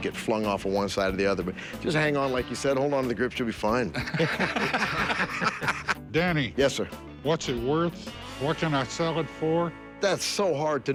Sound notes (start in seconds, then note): 3.9 laughter